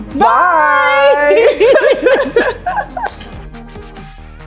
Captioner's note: both laugh; upbeat electronic music